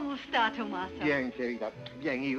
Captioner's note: speaking spanish